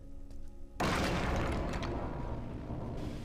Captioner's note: chair crashes